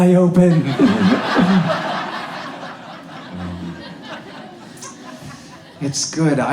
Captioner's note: audience laughs